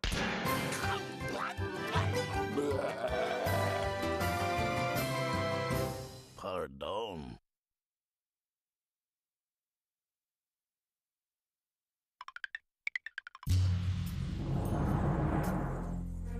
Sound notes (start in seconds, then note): 2.5 growling